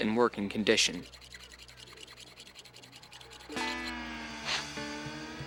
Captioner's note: metal scraping